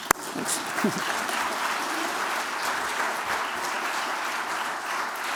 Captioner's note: applause